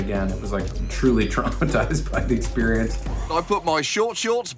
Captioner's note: chuckles